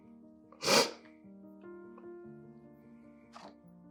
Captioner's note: sniffling